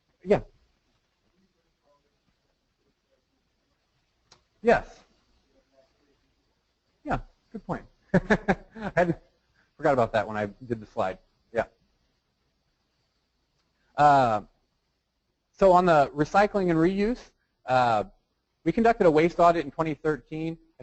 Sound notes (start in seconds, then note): 8.1 laughs